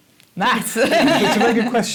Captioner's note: laughter